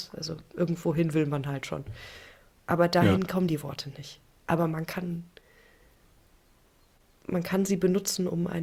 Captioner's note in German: räuspern